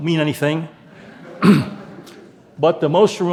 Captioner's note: audience laughing